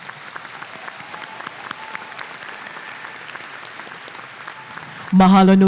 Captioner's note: applause and cheers